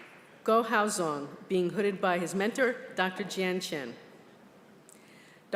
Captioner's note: applause